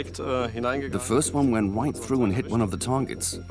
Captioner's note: in German; dubbed in English